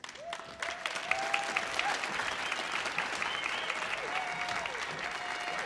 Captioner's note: audience cheering and applauding